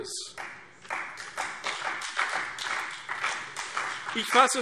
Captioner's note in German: Beifall CDU und vereinzelt BÜNDNIS 90/DIE GRÜNEN